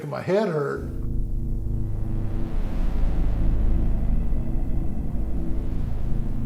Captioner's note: mysterious music; spacecraft humming